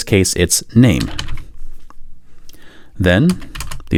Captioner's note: typing